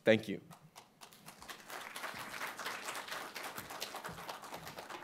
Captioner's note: applause